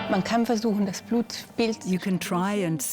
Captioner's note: in German; dubbed in English